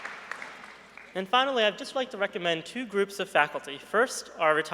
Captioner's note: applause